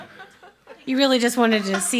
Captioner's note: members laughing